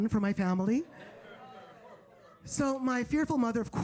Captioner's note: audience laughing